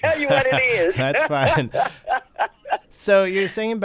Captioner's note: laughter